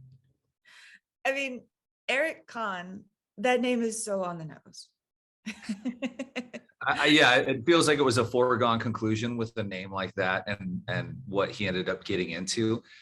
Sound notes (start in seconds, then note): 5.4 laughing